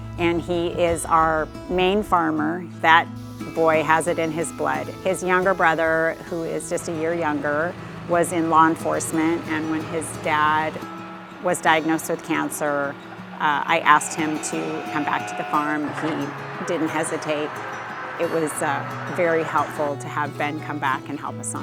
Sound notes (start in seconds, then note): 17.2 engine whirring